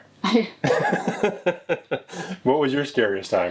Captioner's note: both laughing